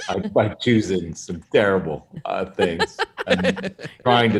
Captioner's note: hosts laughing